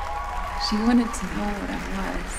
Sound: applause

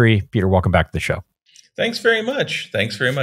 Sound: none

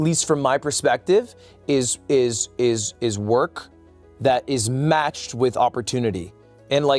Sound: stutters

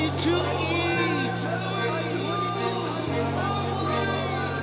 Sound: echoing

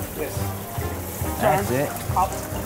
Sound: pops

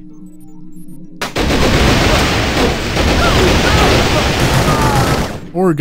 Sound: sounds of gun kata

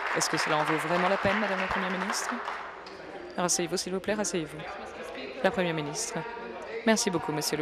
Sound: applause

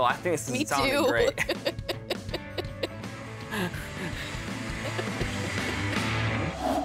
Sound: laughing

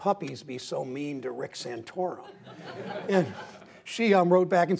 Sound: laughter

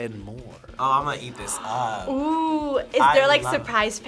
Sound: gasps

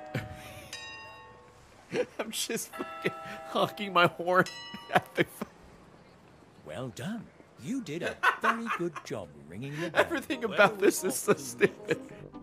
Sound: laughs; laughs

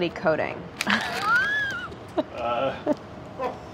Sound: laughing

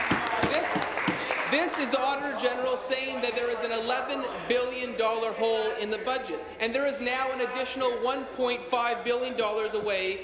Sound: applause

